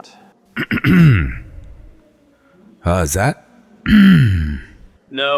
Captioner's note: clears throat